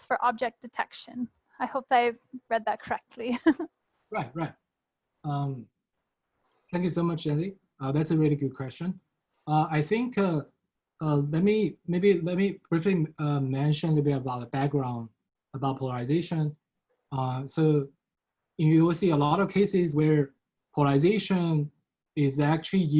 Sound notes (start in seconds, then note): 3.2 chuckles